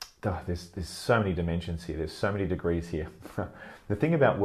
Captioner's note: laughs